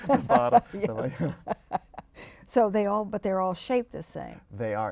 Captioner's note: laughter